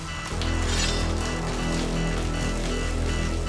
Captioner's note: ax rasps